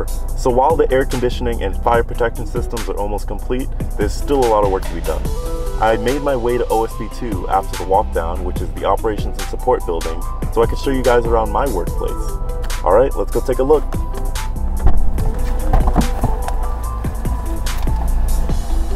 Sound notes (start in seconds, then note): 13.6 car door opening